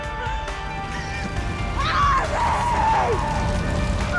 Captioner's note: distraught crying